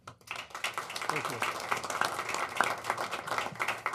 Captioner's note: applause